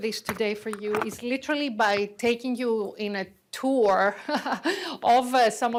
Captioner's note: laughs